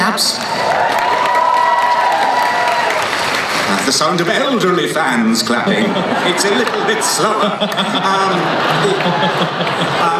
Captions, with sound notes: And they... (cheering) That's the sound of elderly fans clapping. It's a little bit slower. (laughing)